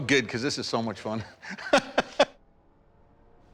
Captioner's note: laughs